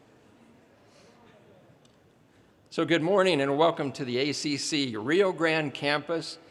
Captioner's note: audience chatting off microphone